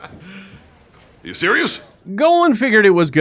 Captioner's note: laughs hysterically